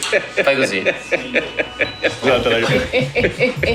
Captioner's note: laughs